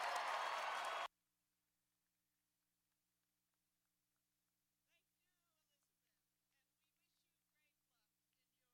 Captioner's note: cheers and applause